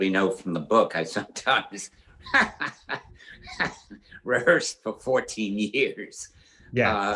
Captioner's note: laughs